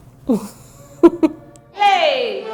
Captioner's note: laughs